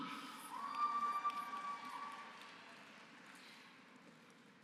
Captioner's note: applause